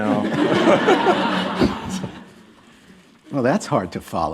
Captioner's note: laughter